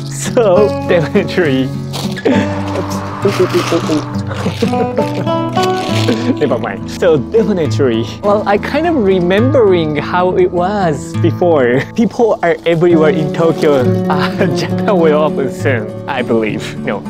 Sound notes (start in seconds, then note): 2.2 wind blows; 4.3 laughs